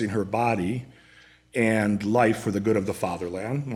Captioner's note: none